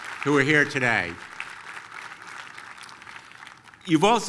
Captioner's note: applause